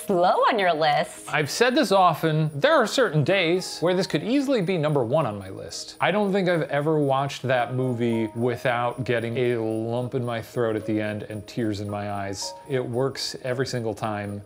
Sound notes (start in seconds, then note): none